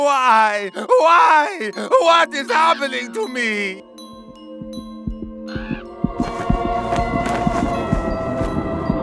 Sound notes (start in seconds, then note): 5.8 bird crows